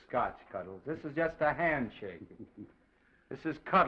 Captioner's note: chuckles